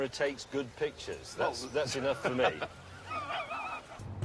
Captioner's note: others laugh